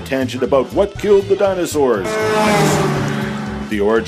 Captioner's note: truck horn